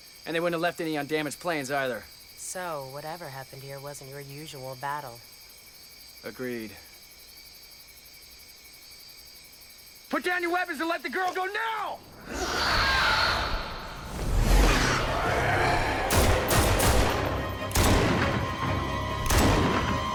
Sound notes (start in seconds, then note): 12.1 creature screeches; 13.9 dramatic music; 15.0 man yells; 15.8 guns firing